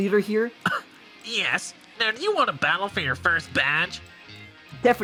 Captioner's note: scoffing